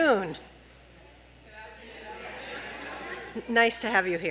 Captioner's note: crowd responds